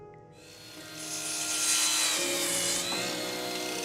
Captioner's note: saw buzzes